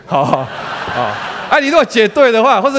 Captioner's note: laughter